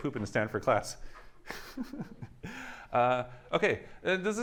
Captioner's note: laughs